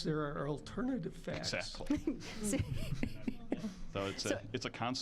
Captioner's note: scattered laughing